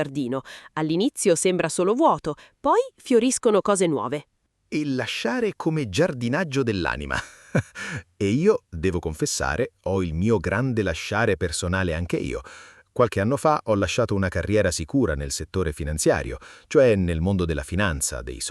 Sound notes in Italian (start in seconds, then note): 7.1 risate